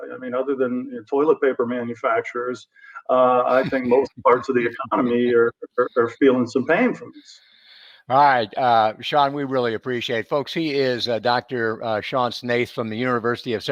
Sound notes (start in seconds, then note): 3.0 laugh